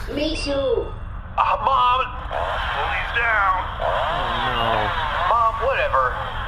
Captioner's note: whirring chainsaw